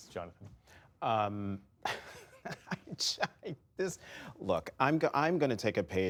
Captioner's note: laughter